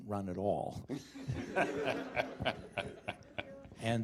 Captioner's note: laughter